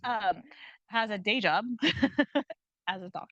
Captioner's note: chuckles; chuckling